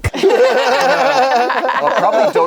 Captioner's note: group laughs